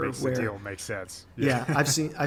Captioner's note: laughing